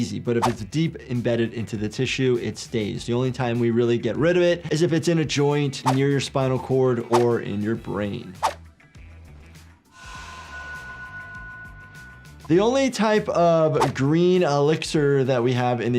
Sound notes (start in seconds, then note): 9.9 elixir chimes